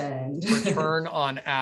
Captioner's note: chuckles